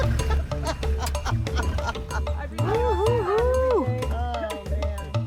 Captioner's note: laughter